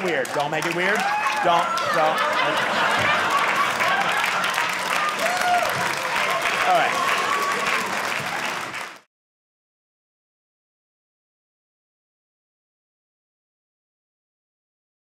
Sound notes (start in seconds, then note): 2.0 audience cheering